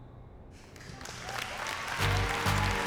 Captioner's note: applause and cheering